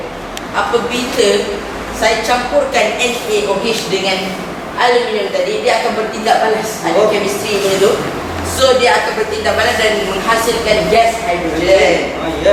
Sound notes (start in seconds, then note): none